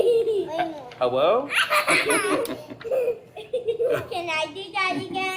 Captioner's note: laughter